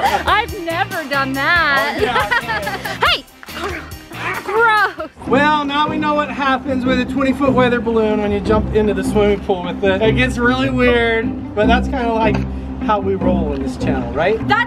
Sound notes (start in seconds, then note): 1.7 laughing